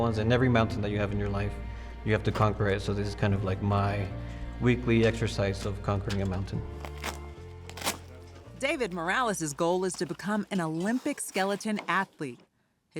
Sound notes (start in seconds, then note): 7.6 rasgado fuerte